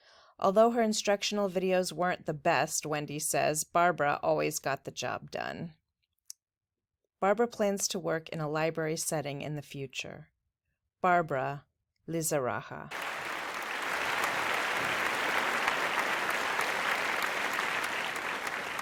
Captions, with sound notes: Although her instructional videos weren't the best, Wendy says, Barbara always got the job done. Barbara plans to work in a library setting in the future. Barbara Lizaragga. (Applause)